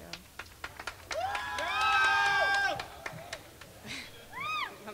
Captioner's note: crowd screaming